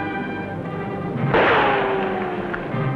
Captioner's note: gunshot